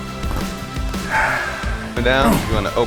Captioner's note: Spice sighing